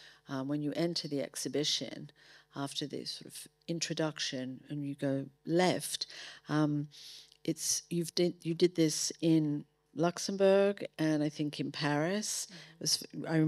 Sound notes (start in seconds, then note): none